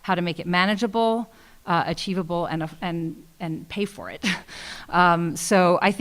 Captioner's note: laughs